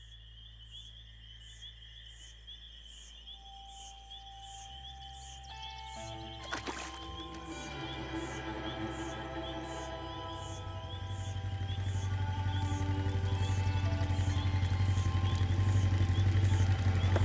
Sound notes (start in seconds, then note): 8.2 dark suspenseful music; 11.5 engine revving